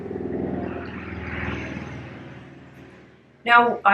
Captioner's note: engine rumbling